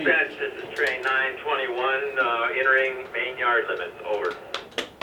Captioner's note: radio